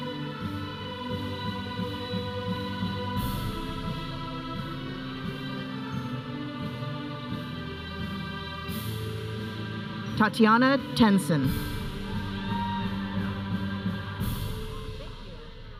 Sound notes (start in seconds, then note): 12.0 audience cheering